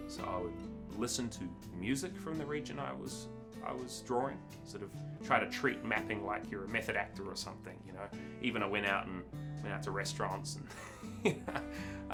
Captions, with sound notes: So I would listen to music from the region I was drawing, sort of try to treat mapping like you're a method actor or something, you know. Even I went out to restaurants (laughs),